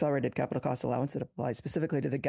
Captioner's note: speaking French